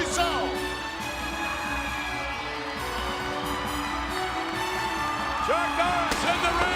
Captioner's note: crowd cheering; upbeat music